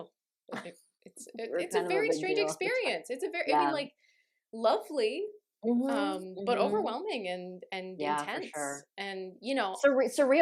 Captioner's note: scoffs